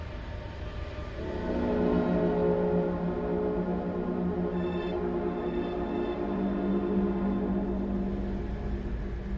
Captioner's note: ghostly train horn